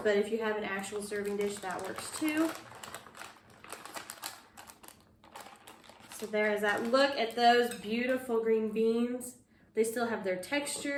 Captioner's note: packing rustles